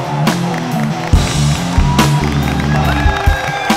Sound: everyone Claps

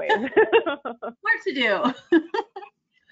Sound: laughs

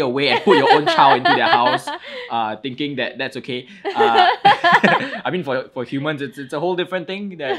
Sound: both laugh

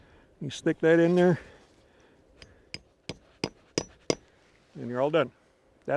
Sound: metal clanking

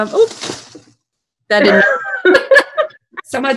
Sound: laughing

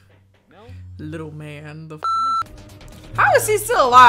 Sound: beep

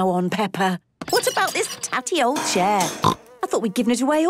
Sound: snorting

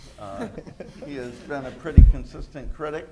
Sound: laughter

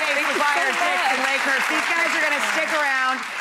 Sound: applause

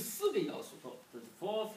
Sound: speaking foreign language

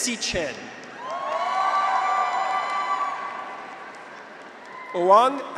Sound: graduates cheer; audience applauds

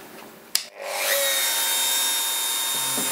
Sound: high whirring

